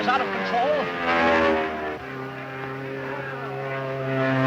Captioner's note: airplane buzzing